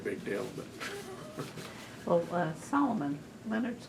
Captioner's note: laughs